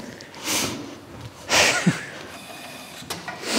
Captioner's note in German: Seufzen